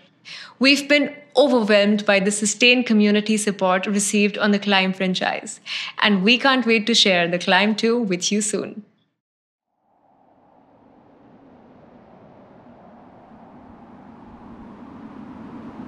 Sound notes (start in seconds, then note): 9.8 wind whooshing